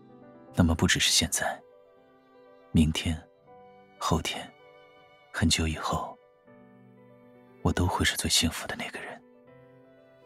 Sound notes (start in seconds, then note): none